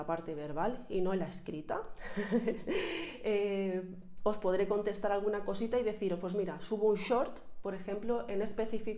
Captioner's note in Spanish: risas